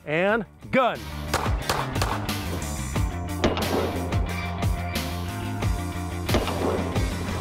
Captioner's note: heavy rock music; gun fires